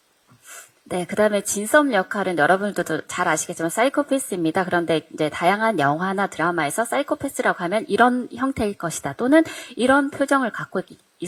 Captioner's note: translating in Korean